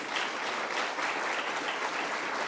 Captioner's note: applause